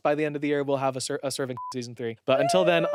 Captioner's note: beep